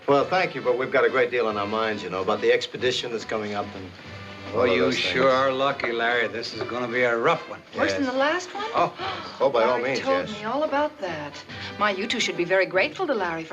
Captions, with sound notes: Well, thank you, but we've got a great deal on our minds. You know, about the expedition that's coming up and all those things. Well, you sure are lucky, Larry. This is gonna be a rough one. -Yes. -Worse than the last one? -By all means, yes. -(GASPS ) Larry told me all about that. My, you two should be very grateful to Larry